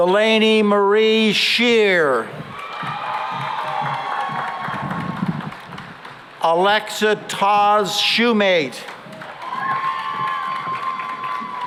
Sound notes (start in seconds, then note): 2.4 cheering and applause; 8.8 cheering and applause